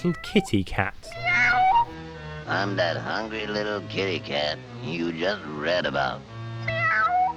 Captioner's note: soft meow; deep, gravely voice